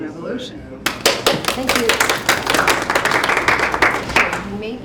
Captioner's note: attendees applauding